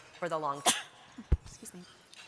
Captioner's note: sneezing